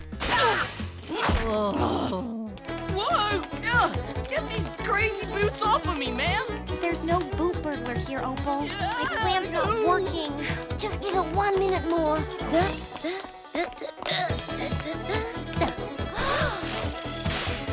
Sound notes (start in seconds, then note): 0.1 yelling; 1.7 crashing